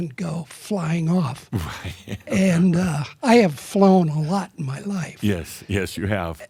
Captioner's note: chuckles